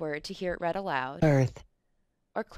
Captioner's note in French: Voix D'ordinateur